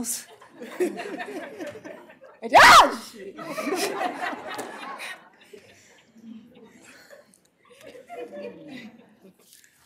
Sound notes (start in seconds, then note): 0.2 laughter; 2.5 screams